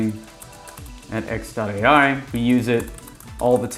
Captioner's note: keyboard typing